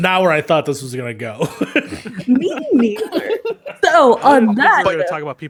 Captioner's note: everyone laughs